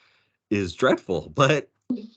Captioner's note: chuckling